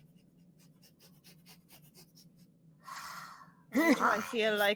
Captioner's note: sniffing